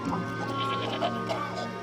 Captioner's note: laughs